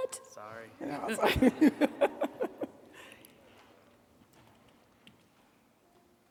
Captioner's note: laughing